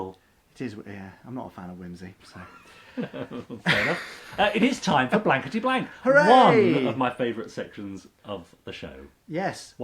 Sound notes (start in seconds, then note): 2.4 laughs